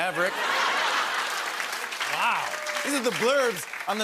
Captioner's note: laughter and applause